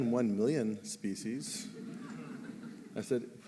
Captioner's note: laughter